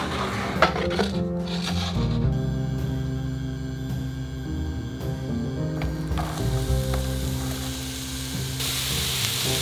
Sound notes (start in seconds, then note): 2.9 burner humming; 6.2 sizzling